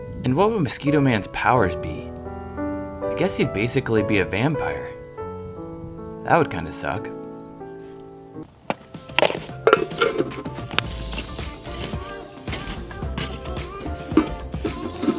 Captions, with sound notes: And what would mosquito man's powers be? I guess he'd basically be a vampire. That would kinda suck. (techno music) (kettle clanking)